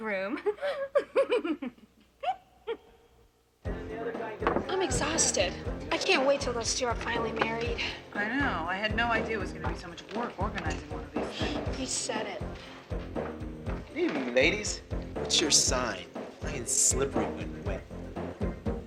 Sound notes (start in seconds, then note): 0.2 laughing